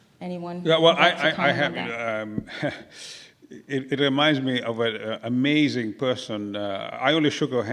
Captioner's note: laugh